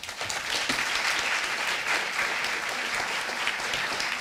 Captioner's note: audience applauding